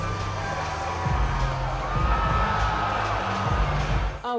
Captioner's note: audience cheers